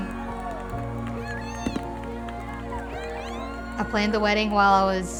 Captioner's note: crowd cheering